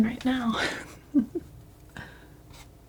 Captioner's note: laughs